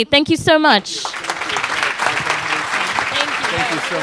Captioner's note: crowd applauding